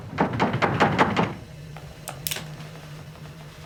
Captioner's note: rattling